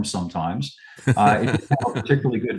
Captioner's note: laughs